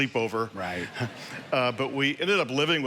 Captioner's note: congregation laughing